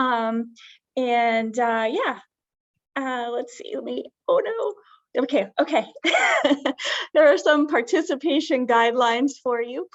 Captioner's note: giggle